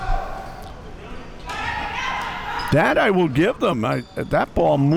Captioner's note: spectators shouting